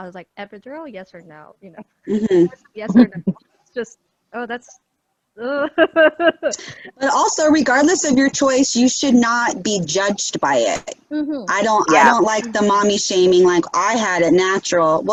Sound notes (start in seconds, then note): 2.0 shivers